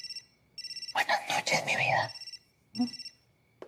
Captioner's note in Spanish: Suena el celular